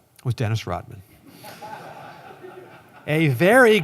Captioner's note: laughter